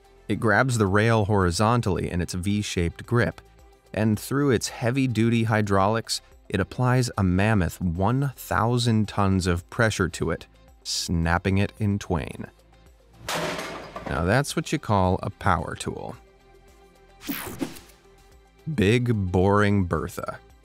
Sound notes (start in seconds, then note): 13.2 metal breaking; 17.3 air whooshing